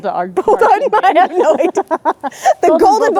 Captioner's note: both laughing